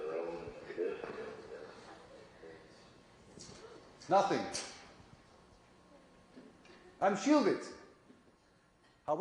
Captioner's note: radio